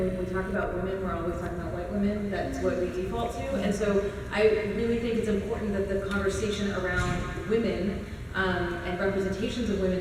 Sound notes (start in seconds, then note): none